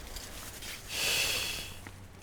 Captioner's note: puff